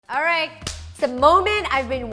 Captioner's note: claps